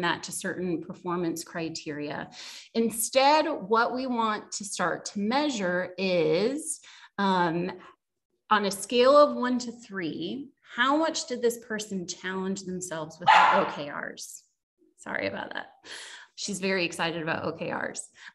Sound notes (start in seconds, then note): 13.2 puppy barking